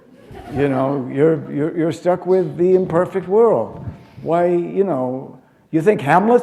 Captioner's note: laughter